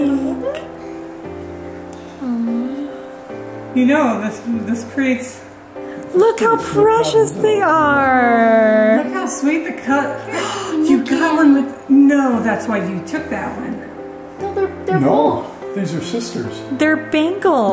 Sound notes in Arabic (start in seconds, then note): 10.6 شهقات